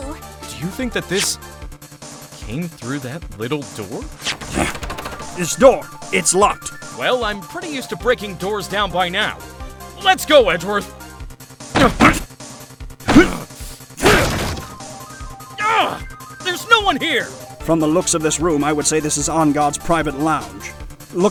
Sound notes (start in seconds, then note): 4.4 door knob rattling; 11.4 slam! slam!; 14.0 crash!